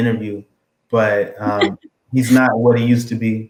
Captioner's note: laugh